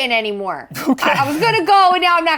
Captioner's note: laughing